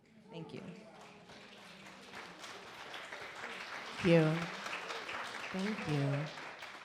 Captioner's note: audience applaud